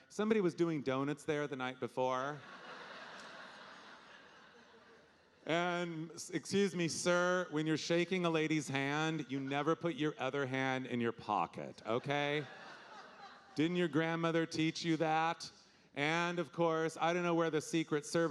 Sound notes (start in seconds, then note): 2.2 audience laughing